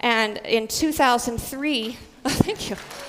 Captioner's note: applause